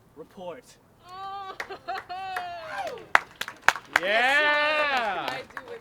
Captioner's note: applause